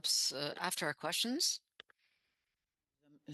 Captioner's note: speaking French